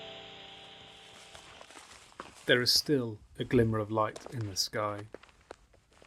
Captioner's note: sound of footsteps swish in grass